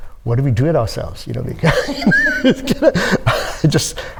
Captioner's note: all laughing